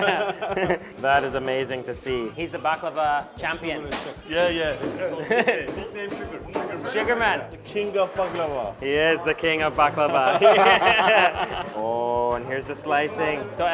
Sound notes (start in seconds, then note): 0.0 laughs; 5.1 laughs; 6.0 speaking foreign Language; 10.1 laughs